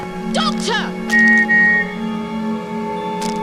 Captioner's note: whistle